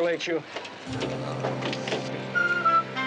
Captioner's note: Keller groans